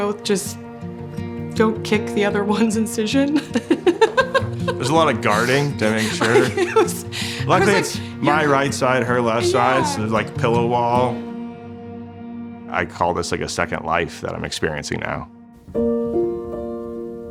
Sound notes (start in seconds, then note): 3.4 laughs